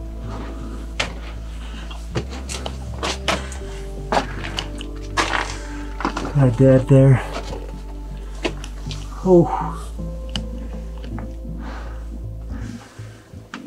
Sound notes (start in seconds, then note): 9.0 exhales